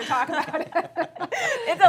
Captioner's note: laughter